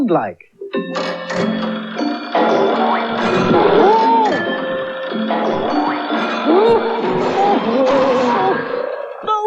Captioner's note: clock Begins To Chime VERY Loudly